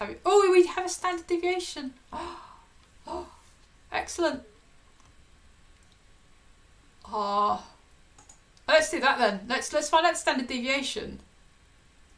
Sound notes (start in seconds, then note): 2.1 gasps